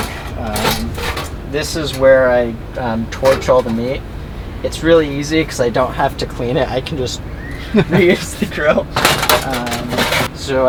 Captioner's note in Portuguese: risos